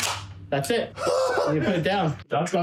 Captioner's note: laughing